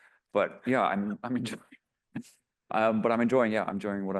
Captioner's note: laughs